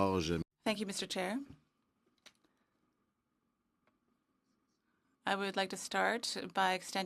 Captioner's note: speaking French